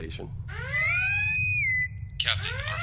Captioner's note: klaxon & bosun whistle